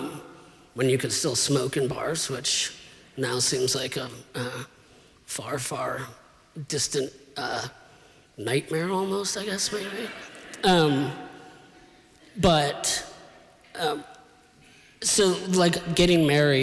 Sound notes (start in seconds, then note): 9.8 laughter